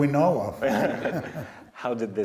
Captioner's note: laughing